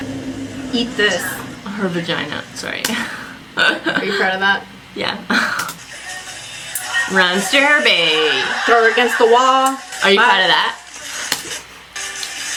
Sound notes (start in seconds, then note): 2.8 laughs